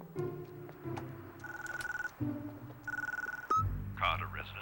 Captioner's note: ringing